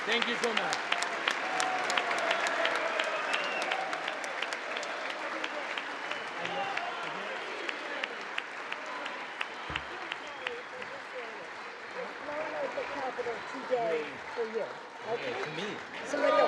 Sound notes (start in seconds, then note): 1.6 congress applauding; 9.8 congress applauding